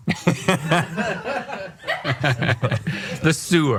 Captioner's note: laughing